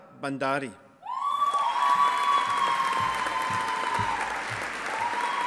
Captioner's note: audience applauding